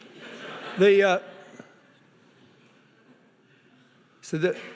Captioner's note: audience laughing